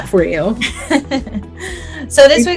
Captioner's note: laughs